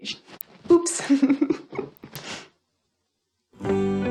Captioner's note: laughs